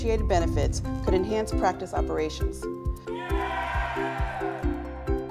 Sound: cheers

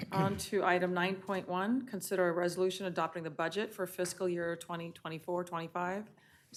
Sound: chorus of ayes

